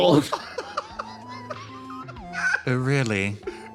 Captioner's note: laugh